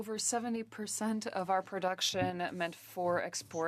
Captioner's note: speaking French